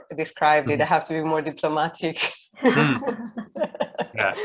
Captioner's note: laughs